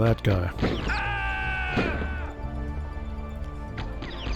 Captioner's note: delayed terrorist death yell